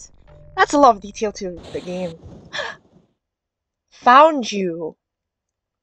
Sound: static

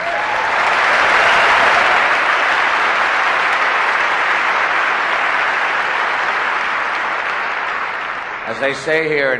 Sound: applause

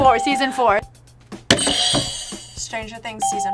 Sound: bell rings

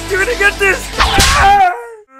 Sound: slap

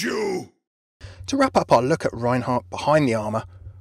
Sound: voiceover

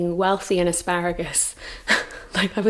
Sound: laughs

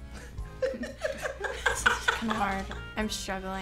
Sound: moms laughing

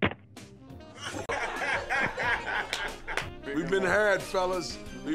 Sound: laughing

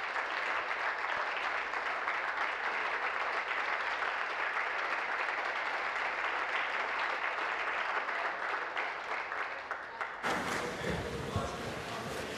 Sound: applause

